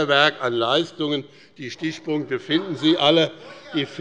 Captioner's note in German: Lachen